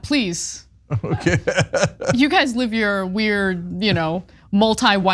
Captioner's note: laugh